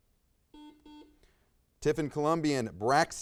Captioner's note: buzzer buzzes